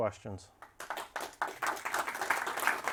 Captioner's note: applause